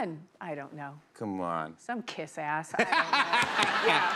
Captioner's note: laughter